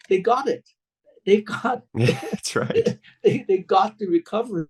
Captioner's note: laughs